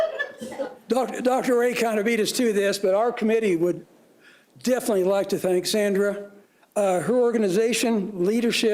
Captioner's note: laughter